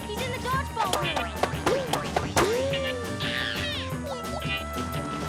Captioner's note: ball bouncing off walls